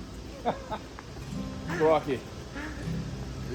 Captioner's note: laughs